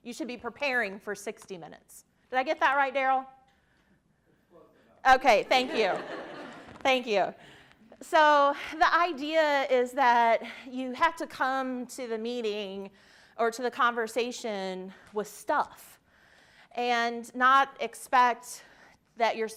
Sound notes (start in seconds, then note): 5.5 participants laughing